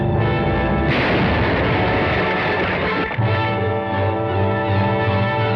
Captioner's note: metal banging